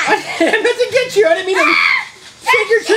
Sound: assistant screams

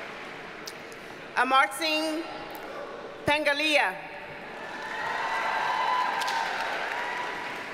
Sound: audience cheers and applauds

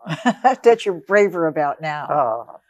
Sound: laughs

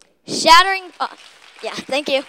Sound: applause

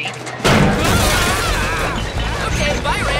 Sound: screaming

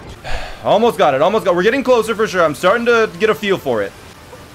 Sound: sighs

